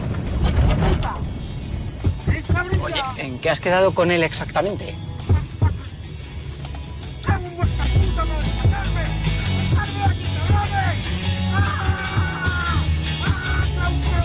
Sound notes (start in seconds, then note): 5.4 banging from the boot; 8.6 yelling; 11.3 desperate cries